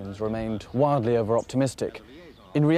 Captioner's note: voiceover